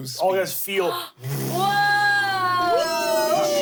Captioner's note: gasps